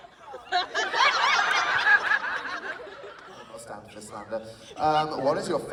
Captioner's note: laughter